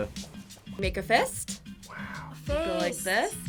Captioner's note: whispers